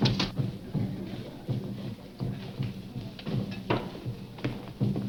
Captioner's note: people murmuring